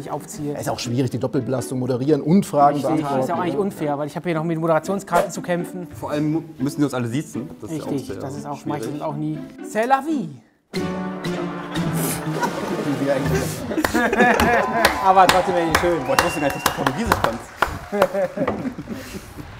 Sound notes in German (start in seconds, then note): 10.7 Düstere Musik; 12.0 Lachen; 13.8 Jubel